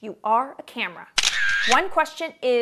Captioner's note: camera shattering